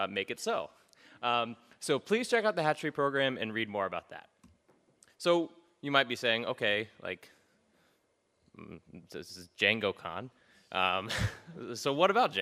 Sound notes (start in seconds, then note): 8.1 stammers